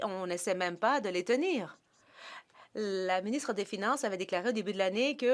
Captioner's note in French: voix de l'interprète